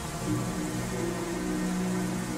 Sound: water running; serene orchestral music

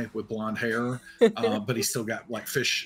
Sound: laughs

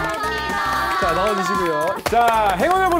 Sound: seal-like clapping

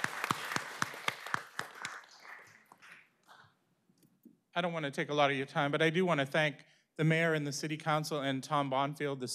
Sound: applause

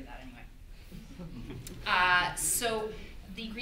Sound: audience laughter

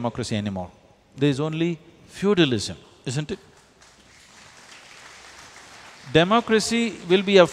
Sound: applause

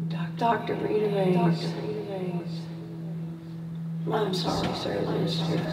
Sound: voice echoing

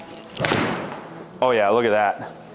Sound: golf club striking ball

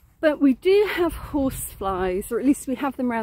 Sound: none

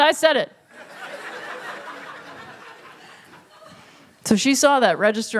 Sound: laughter

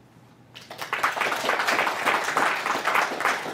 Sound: applause

